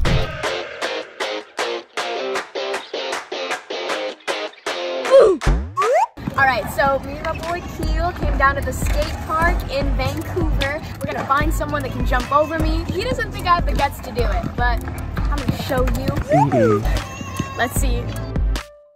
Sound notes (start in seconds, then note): 0.2 upbeat music; 5.8 whistle blowing